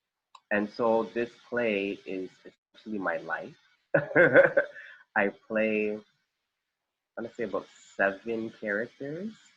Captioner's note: laughter